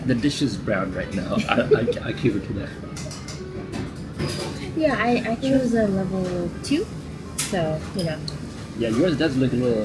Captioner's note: laughter